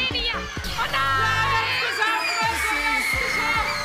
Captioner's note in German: Jubel